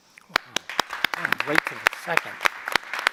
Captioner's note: applause